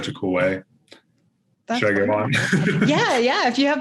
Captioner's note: laughs